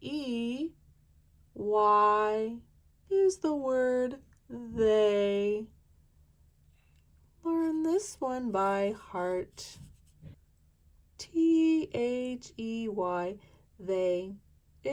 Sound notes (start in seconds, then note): none